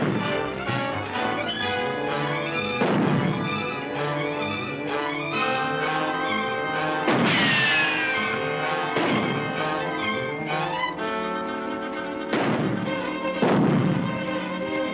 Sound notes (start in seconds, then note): 0.1 tense music; 6.9 gunshots